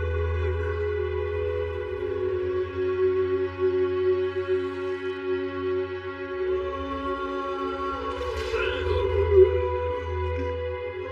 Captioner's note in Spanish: Grita